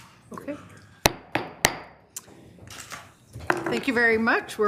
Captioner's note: gavel tapping